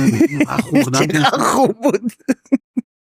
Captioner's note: laughs